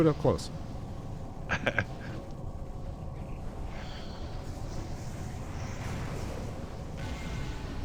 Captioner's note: laughs